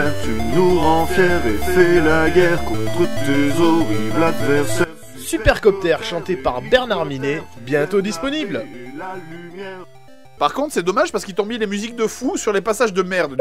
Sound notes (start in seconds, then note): 5.1 voiceover